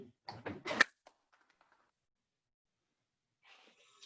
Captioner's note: clapping